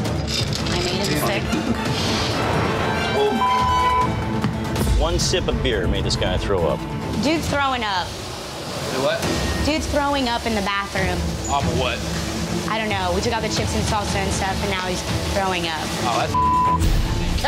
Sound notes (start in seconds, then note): 2.2 intense music; 9.4 griddle sizzling; 16.3 beep